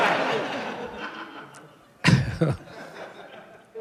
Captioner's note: laughs